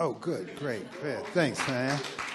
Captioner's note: applause